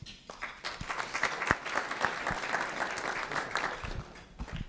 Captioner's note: applause